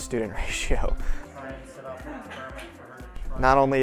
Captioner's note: students talking in background